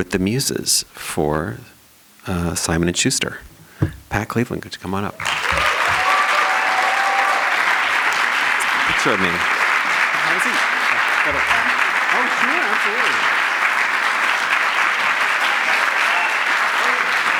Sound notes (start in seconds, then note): 5.2 applause